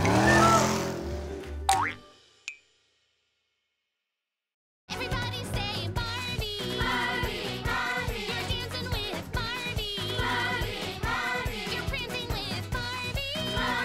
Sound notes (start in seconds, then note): 1.6 cartoon pop